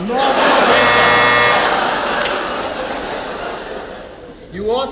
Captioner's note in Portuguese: campainha